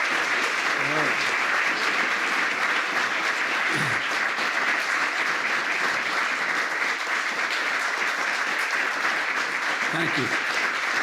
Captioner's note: applause; applause